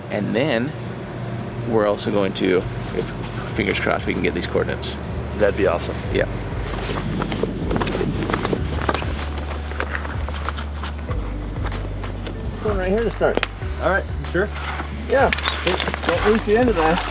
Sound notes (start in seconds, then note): 7.8 feet stepping; 10.3 light upbeat music; 16.1 indistinct chatters